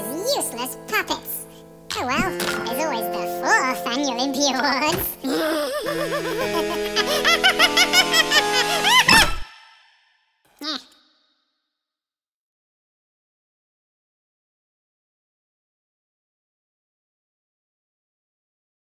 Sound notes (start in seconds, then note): 5.2 evil laughter